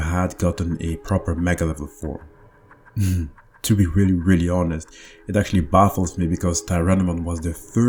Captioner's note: laughs